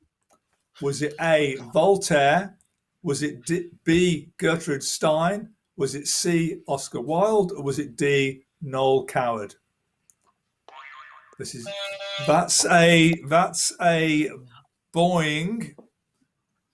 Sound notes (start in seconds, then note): 10.7 boing